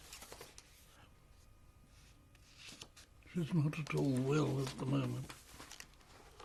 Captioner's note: pauses for 3 seconds